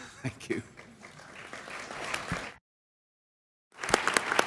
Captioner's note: applause